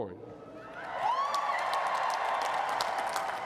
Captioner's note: cheers and applause